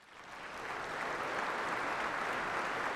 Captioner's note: applause